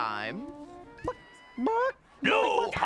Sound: clucking

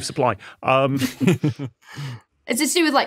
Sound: group snickering

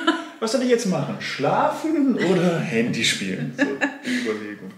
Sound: laughing

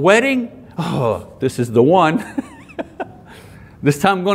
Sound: laughs

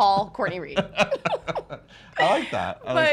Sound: laughing

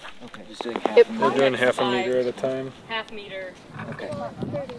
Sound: indistinct chattering

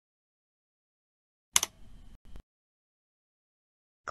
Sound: click sound

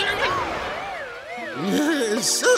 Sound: groaning

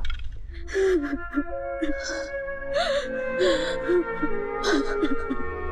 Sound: sobbing

